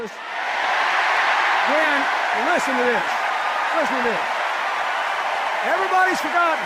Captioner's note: cheers and applause